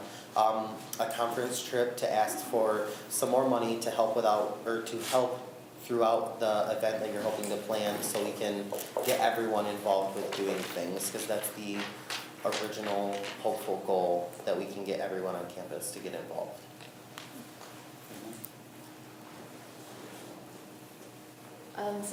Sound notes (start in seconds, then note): none